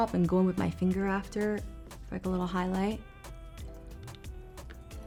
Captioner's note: none